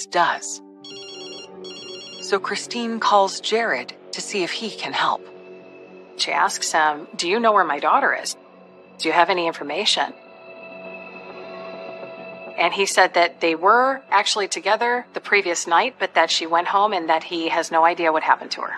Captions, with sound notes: - One of Ashley's friends does. [cell phone rings] So Kristine calls Jared to see if he can help. - She asks him, do you know where my daughter is? Do you have any information? And he said that they were actually together the previous night, but that she went home